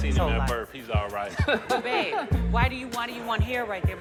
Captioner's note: men chuckle